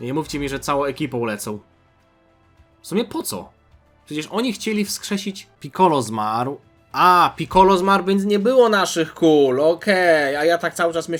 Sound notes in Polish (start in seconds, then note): none